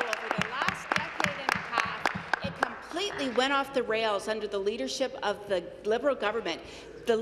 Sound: some Applause

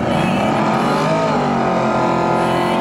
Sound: engine roaring

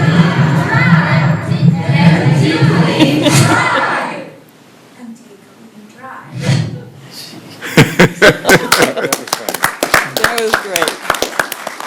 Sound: laughter

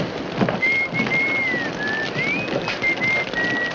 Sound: judge whistling

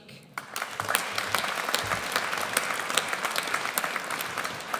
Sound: audience applauds

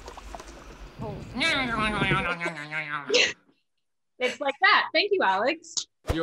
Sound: imitates silly sounds

